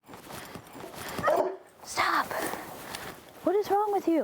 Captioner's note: dog huffs, barks, jingles